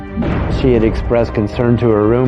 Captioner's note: gunfire blasting